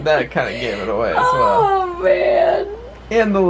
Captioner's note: laughing